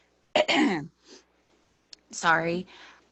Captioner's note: clears throat